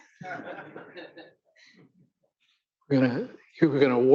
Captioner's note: audience laughing